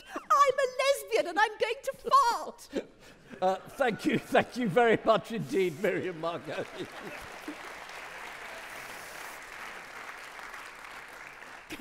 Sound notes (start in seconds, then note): 3.5 audience laughing; 5.8 audience clapping